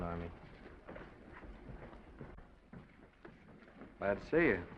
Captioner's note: footsteps receding